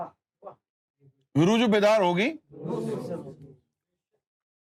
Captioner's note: audience repeats